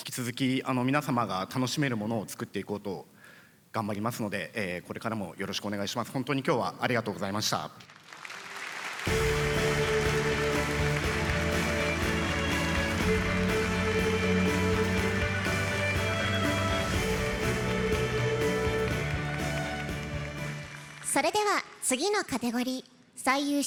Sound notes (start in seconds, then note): 7.8 applause